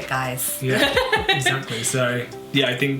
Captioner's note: laughs